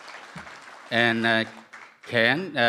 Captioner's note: applause